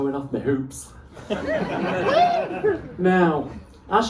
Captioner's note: laughter